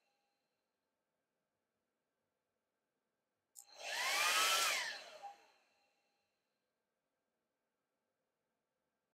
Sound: hairdryer turning on & off

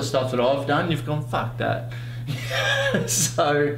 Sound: laughs

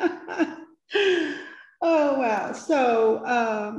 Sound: chuckles

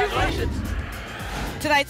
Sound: whoosh

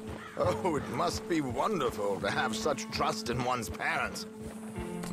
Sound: laughs

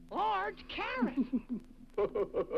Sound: laughs

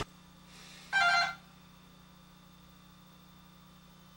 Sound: door bell rings

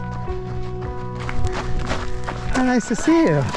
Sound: footsteps pounding

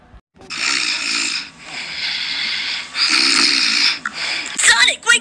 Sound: snoring

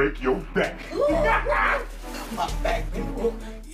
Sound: laughing

